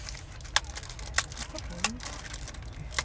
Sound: snaps chocolate

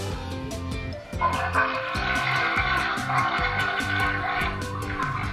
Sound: toilet flushing

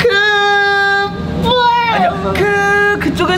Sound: crying

